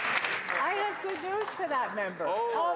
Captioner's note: some Applause